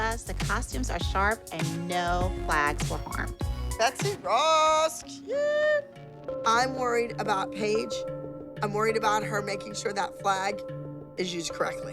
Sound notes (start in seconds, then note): none